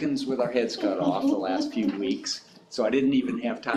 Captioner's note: board members chuckling